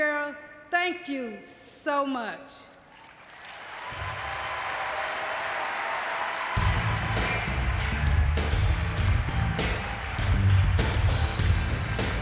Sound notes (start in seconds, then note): 2.6 audience cheering and clapping; 6.6 upbeat music